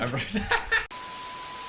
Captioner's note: laughs